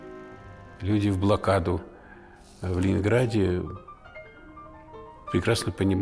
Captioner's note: Aleksandr Sokurov, in Russian